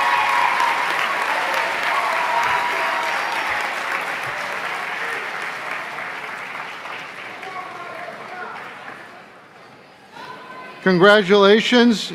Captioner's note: applause